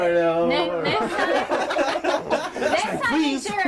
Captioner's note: overlapping chatting and laughter